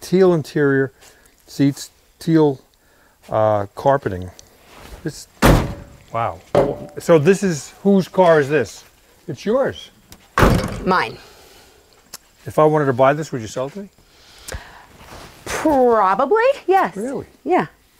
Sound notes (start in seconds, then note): 5.4 door thudding; 10.3 door thudding